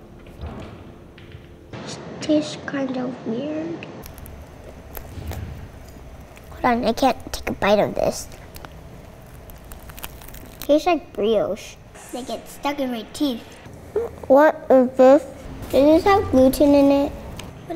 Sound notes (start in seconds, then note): 4.0 crunching